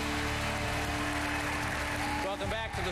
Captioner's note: applause